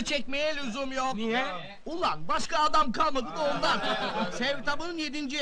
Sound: laughing

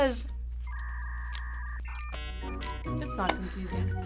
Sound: dial-up whirring

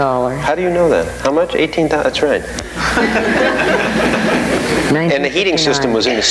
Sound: audience laughing

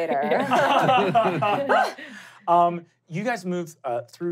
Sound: laughing

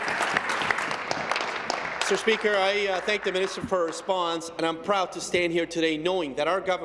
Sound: applause

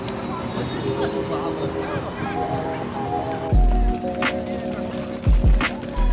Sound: train squeals, passersby chat

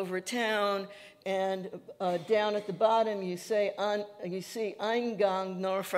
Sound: speaking Yiddish

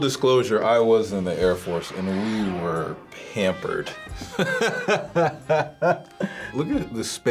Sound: laughs

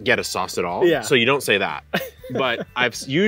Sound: laughs

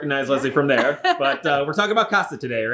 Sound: laughing

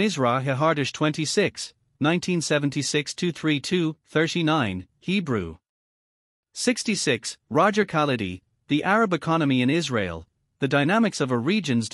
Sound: Hebrew

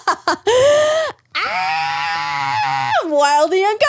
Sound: shrieking

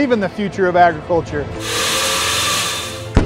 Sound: grinding

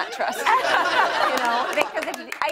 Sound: laughter

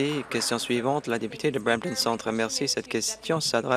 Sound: applause

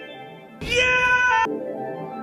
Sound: Mike Wazowski Scream

